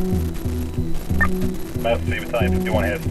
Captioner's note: radio beeps